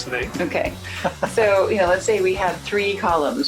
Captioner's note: laughing